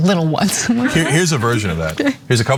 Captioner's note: laugh